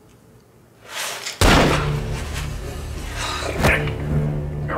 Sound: gun firing

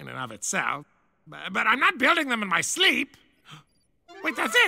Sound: gasp

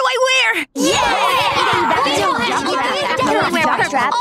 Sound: cheering

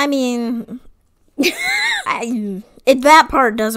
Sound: laughs

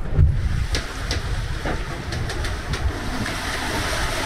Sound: wind

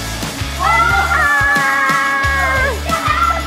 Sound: screaming; laughing

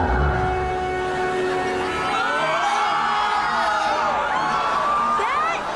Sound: screaming

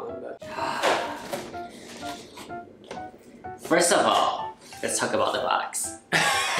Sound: gasps

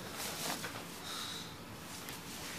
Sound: sighs

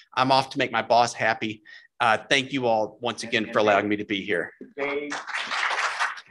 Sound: applause

